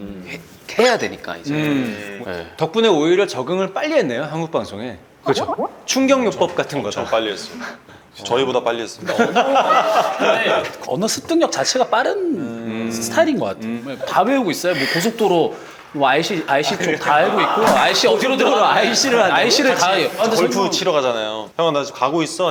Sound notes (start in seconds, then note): 9.0 chuckles